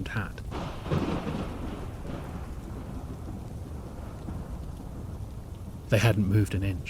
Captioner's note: thunder and rain